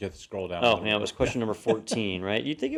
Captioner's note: laugh